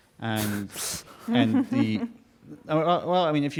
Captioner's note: chuckling